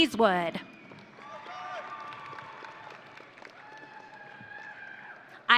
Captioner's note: audience cheering